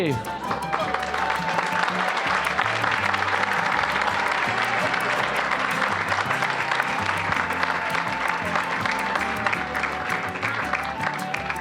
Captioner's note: applause